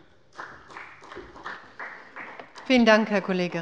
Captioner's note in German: Beifall bei der FDP